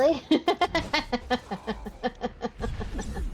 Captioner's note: laughs